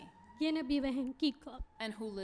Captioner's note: speaking spanish